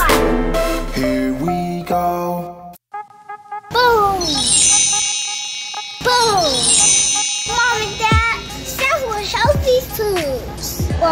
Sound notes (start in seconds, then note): 4.1 magical chiming; 4.2 upbeat music